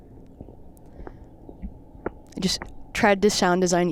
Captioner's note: shoes patter; shoes clop